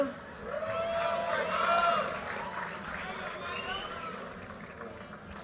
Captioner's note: audience cheers and applause